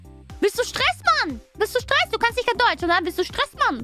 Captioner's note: ドイツ語